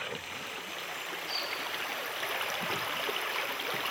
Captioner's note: splashing